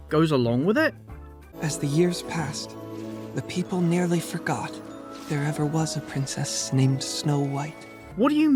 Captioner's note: narrating